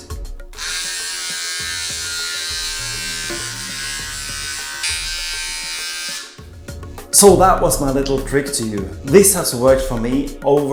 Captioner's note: beard trimmer sound